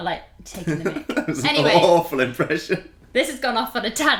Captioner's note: laughing